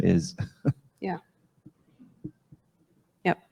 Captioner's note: chuckles